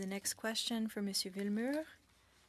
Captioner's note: speaking French